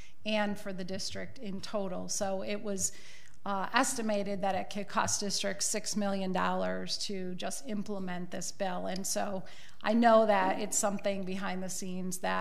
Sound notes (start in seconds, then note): none